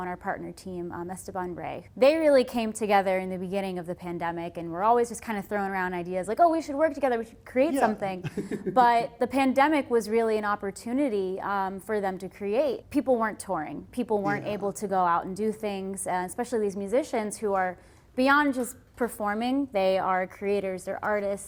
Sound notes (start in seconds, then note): 7.7 laughs